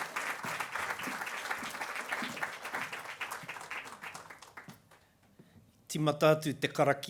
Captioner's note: applause